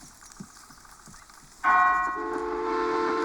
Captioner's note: clock chimes, steam engine chugging